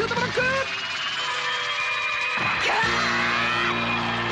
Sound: applause

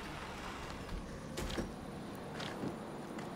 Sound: traffic rumbles

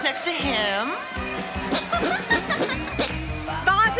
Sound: armpit squeaking; girls laughing

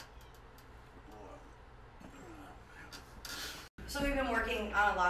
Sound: grunting

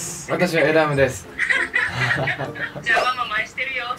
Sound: happy laughter

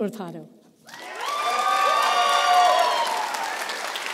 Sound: applause

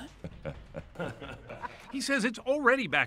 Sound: laughing

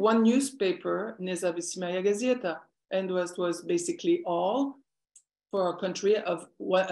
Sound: non-english speech

